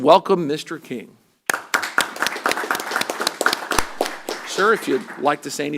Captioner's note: applause